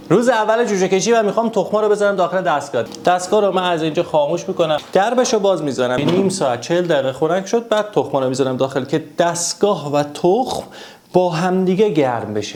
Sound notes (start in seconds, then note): 6.0 door